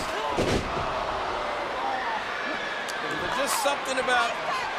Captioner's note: wrestler thuds